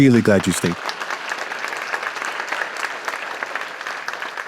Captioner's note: applause